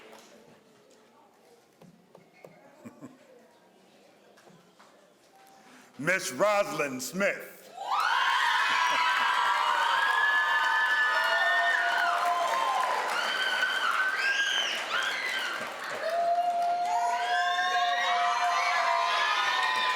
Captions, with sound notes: Ms. Rosling Smith (crowd screams and applauds)